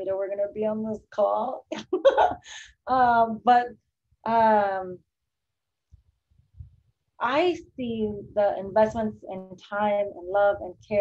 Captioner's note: chuckles